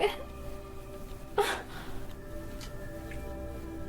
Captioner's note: cries